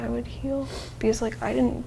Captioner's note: sniffling